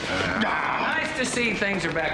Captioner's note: both growl humorously